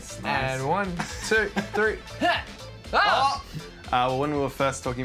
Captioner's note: both exclaim